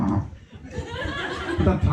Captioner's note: bursting laughter